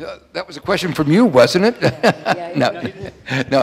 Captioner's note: laughs